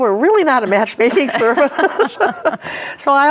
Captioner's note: laughing